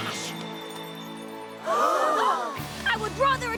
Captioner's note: crowd gasping